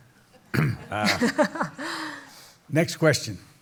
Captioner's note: laughter